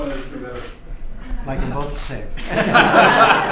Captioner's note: laughter